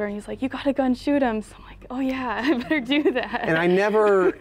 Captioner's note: laughs